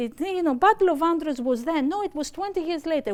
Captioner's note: speaking greek